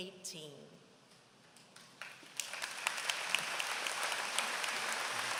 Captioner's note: applause